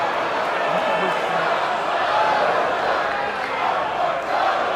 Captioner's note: indistinct crowd noise